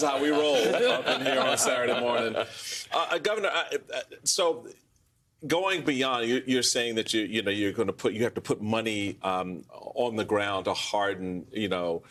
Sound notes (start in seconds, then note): 0.3 laughter